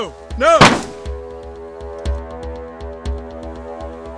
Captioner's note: gun fires